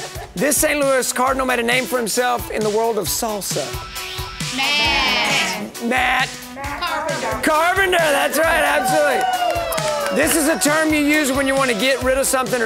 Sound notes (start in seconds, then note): 9.4 group cheering